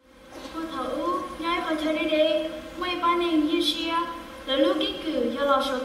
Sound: speaking Hmong

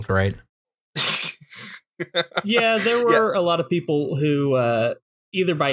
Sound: laughter

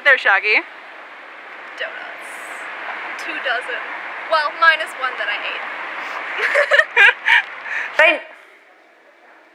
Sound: laughs

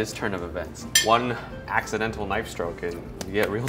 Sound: utensil clanks

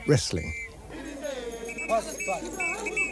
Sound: blows whistle; non-english speech

